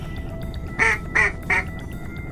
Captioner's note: quack-quack-quack